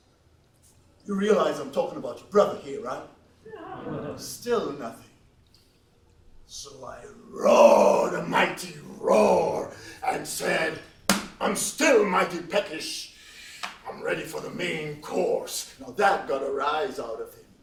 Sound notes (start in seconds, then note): 3.4 laughs